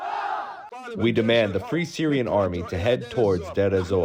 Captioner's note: through translator